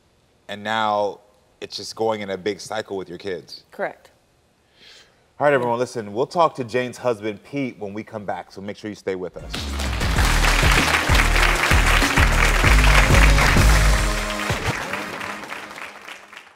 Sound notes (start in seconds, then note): 9.4 upbeat music; 9.4 audience clapping